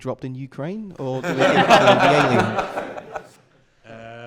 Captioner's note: laughter